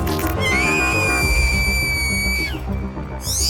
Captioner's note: shrieking sound